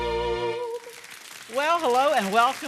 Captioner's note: audience applauding